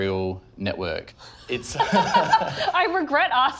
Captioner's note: laughs